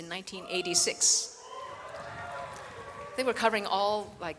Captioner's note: audience cheers